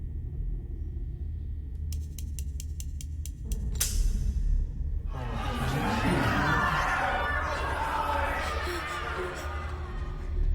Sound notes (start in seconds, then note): 1.8 cylinder clicking; 3.7 gun snaps; 5.1 jeers and groans; 8.3 echoing whimper